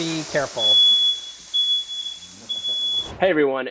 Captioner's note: smoke detector beeping